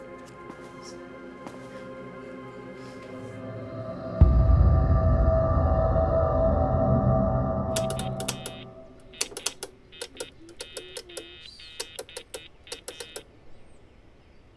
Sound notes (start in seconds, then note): 4.1 ominous music playing; 7.7 beeping, clattering; 10.6 humming a tune